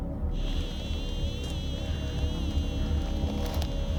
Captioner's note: geiger counter whirring